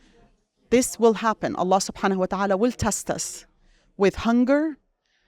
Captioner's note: speaks Arabic